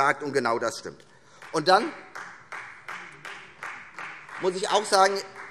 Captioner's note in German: Vereinzelter Beifall Freie Demokraten